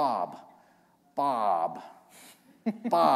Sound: chuckle

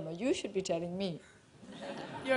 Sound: laughter

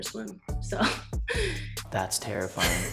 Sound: chuckles; laugh

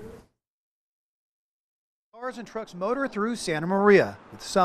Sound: cars driving on road

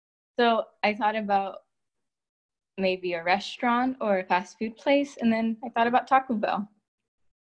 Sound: none

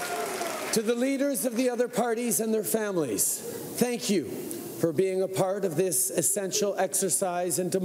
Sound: cheering and Applause

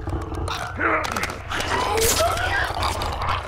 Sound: Joel grunts; Clicker shrieks

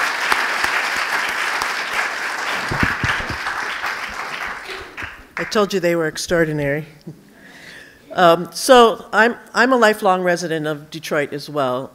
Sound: applause

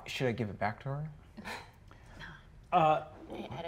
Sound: chuckles

